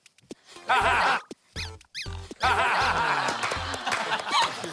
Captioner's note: laughs